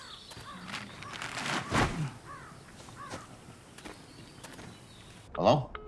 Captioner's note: body bag rustling; bird calling